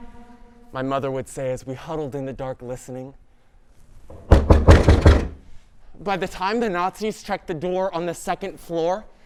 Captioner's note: knock on door